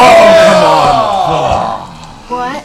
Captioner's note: cheering